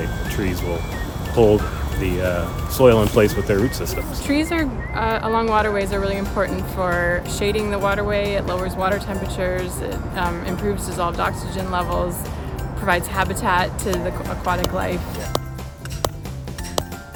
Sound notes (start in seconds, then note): 15.2 hammer sounds